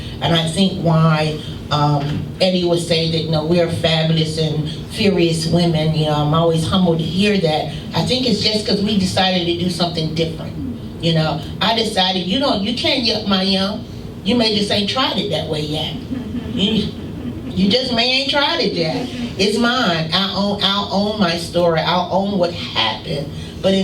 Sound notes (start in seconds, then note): 15.8 laughing